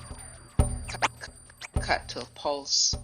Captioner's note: tape rewinds